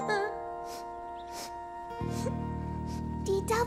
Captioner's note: crying; sniffling